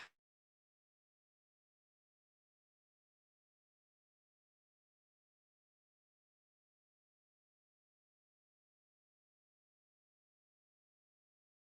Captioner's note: extended silence - technical difficulties